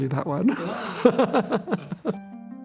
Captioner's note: laughing